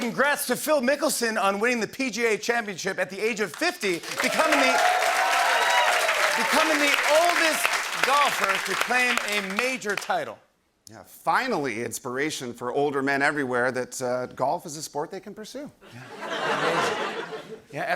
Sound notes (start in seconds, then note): 3.9 cheering and applause